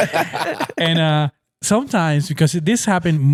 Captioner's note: laughing